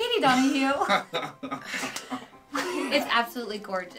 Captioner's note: laughing